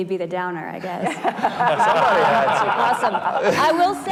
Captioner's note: group laughing